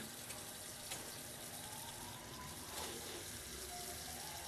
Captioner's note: sirens in distance